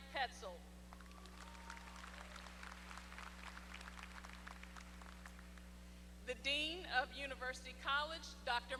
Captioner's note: applause